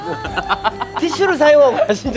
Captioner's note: laughing